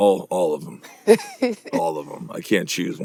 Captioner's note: laughs